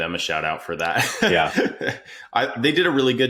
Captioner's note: laughs